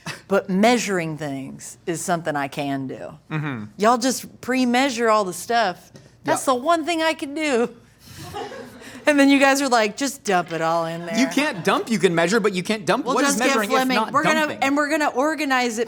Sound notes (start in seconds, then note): 8.2 laughing